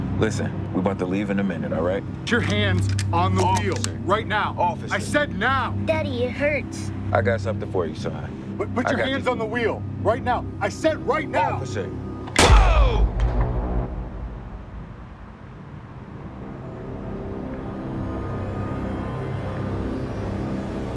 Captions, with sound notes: Listen, we're about to leave in a minute, all right? - Put your hands on the wheel. - Officer. -Right now. -Officer. -I said now! -Daddy, it hurts. I got something for you, son. Put your hands on the wheel. Right now. I said right now. -Officer. [gun shot] Whoa! [ominous music]